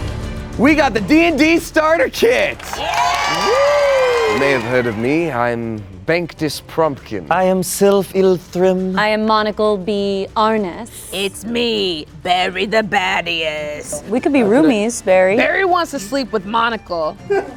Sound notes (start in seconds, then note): 2.2 all cheering and clapping; 17.3 laughing